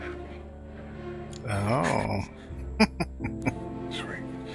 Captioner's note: chuckling